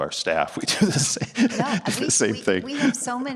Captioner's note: laughing